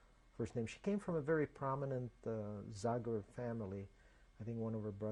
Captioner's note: non-english